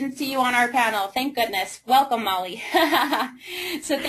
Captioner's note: laughter